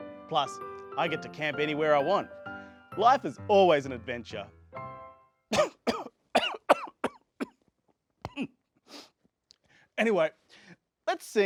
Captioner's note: coughs